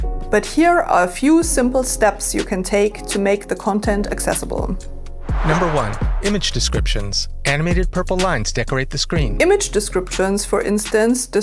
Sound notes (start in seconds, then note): 5.2 whoosh; 6.4 chill electronica